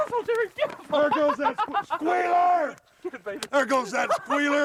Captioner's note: laugh